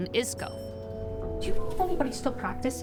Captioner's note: elevator dinging